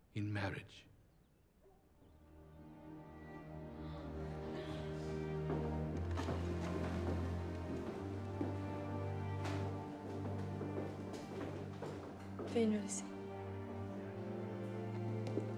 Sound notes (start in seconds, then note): 2.5 joyful orchestral music; 5.2 wood creaking; 5.3 footsteps thumping; 12.6 speaks in foreign language